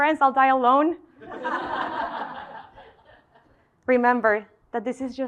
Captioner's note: laugh